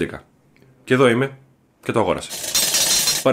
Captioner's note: coin sound